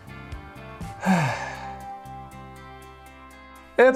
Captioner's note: sigh